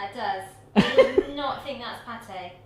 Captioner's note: laughing